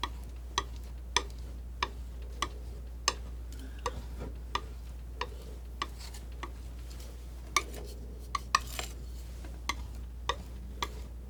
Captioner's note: scratching